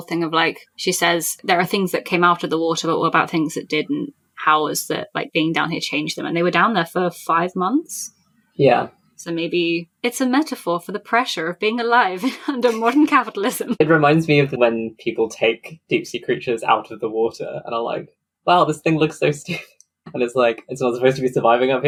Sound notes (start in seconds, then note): 12.1 laughing